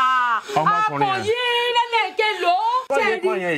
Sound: speaking foreign language

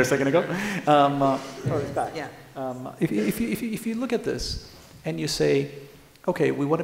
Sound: laughter

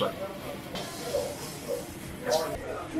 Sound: sizzling

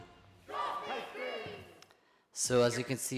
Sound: indistinct cheering

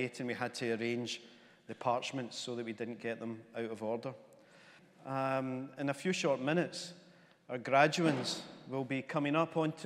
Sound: none

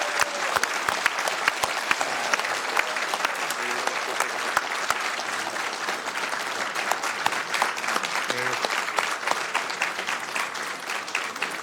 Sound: applause

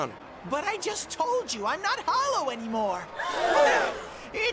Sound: audience gasps

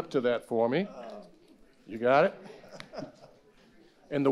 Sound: laughing

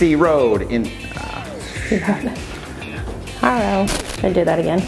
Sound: laughing

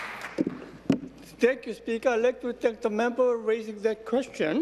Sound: applause

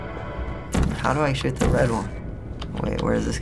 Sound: suspenseful music; gun zaps

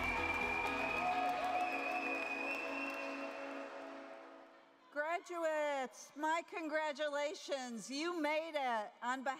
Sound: cheers and applause

